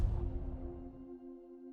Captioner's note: lander bangs